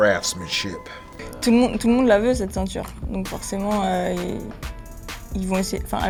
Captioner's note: speaking in French